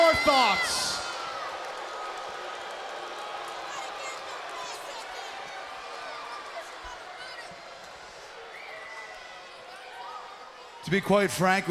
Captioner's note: crowd chatter